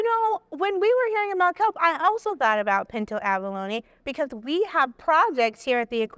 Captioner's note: none